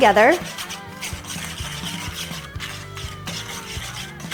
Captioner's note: whisk scrapes